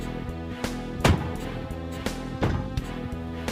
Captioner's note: car doors slam shut